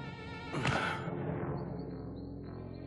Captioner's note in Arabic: تنهد